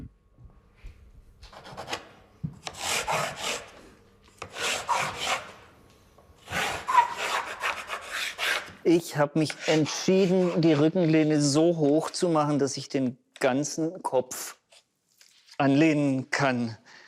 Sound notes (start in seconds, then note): 2.6 sharp scraping noises